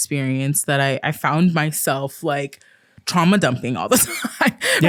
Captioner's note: laughs